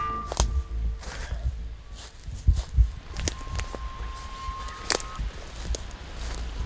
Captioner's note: soft ominous music; leaves crunching